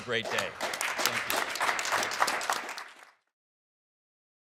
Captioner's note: applause